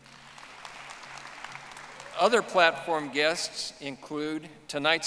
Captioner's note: audience applauding